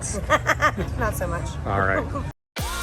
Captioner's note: laughing